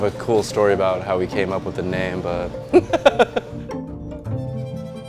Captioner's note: laughs